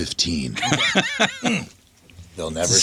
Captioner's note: laughing